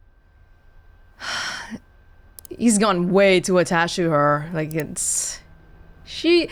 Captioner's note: sighs